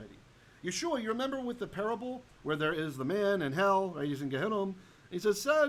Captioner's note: Hebrew